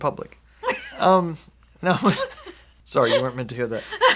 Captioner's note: laughs